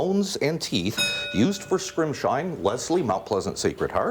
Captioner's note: bell rings